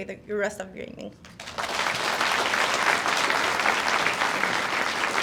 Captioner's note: audience applauds